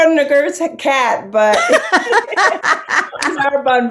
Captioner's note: laughing